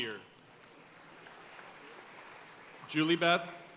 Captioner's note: audience cheering and applauding